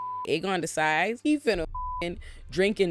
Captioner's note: beep